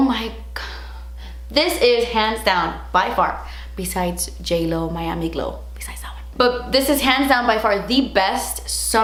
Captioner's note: she whispers